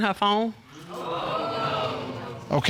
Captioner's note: audience exclaims